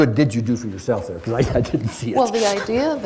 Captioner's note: laughs